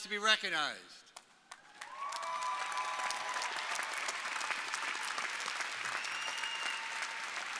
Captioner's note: crowd applauding; crowd cheering